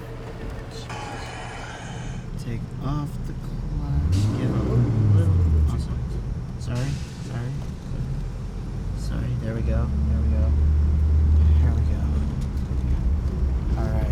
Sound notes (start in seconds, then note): 5.4 engine revs